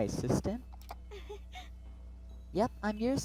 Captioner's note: laughs